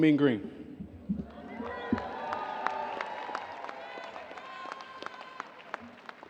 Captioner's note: audience cheering and applauding